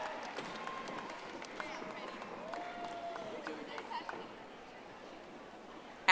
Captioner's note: audience applauding